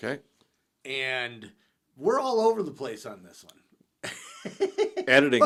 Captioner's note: laughs